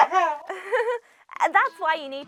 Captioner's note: nervous laugh